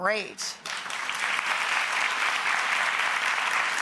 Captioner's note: applause